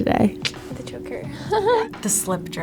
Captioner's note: laughs